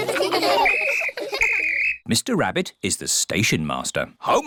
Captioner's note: blows whistle